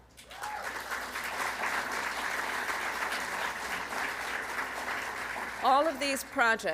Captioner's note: applause